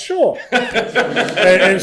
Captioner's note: laughter